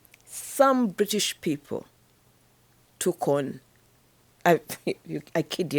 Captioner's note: chuckles